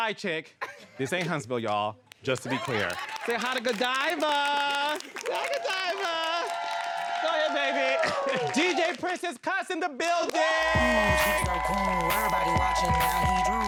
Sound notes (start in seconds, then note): 2.5 audience laughs; 10.3 audience cheering